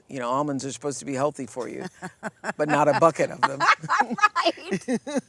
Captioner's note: laughter